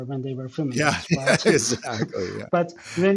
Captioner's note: laughs